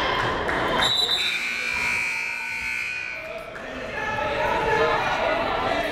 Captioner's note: whistle and buzzer blaring